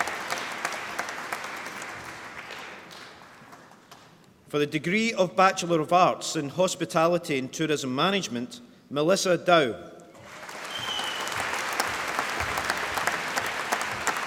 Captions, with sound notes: For the degree of Bachelor of Arts in Hospitality and Tourism Management, Melissa Dow. (APPLAUSE)